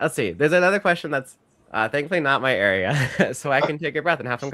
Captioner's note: chuckles